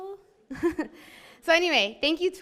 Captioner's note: laughs